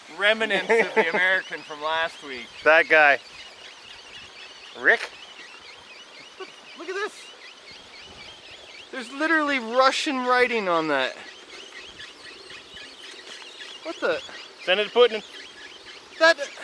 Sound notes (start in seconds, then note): 5.6 machinery squeaking